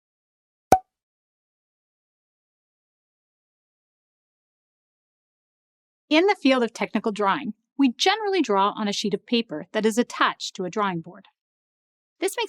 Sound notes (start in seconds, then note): 0.7 pop!